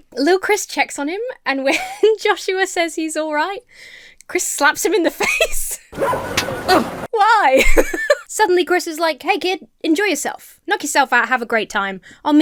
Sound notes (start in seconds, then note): 5.9 Emma laughs; 6.0 dog barks; 6.0 paw smacks; 6.7 Joshua grunts; 7.5 Emma laughs